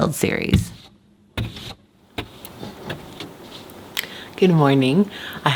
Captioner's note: scraping on windshield